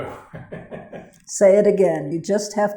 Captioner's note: laughs